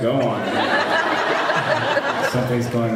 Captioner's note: laughs